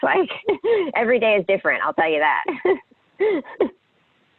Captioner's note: laughs; laughs